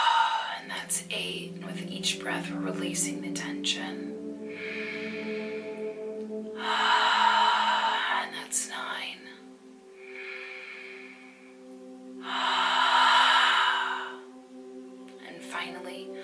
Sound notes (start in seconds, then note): 4.0 breathes deeply